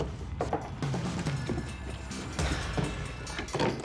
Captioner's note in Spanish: golpes